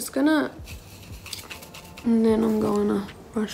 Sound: scraping

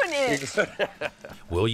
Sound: laughs

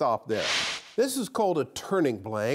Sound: frame whooshes

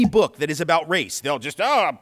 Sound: grumpy voice

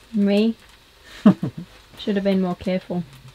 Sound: laughs

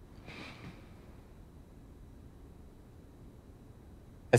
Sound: interviewee sighs

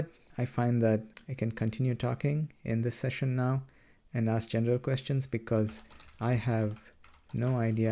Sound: typing

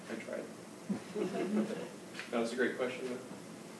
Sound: laughter

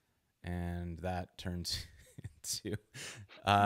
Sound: laughs

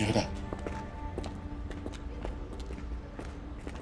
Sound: footsteps receding

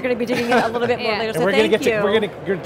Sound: laughing

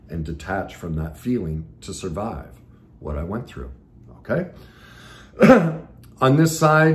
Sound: clears throat

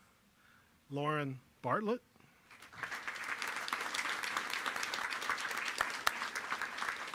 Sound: applause

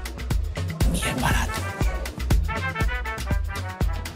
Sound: in a low voice

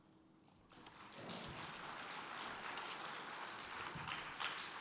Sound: applause

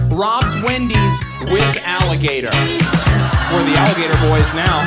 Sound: audience applauds; upbeat hip hop music

